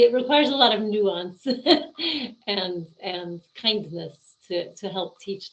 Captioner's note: laughing